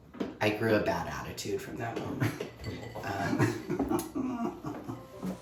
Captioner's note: laughs